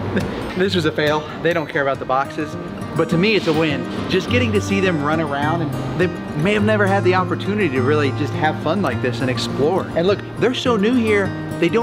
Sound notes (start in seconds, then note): 0.5 giggles